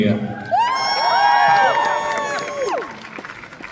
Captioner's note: applause